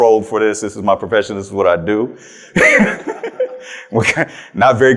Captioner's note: chuckles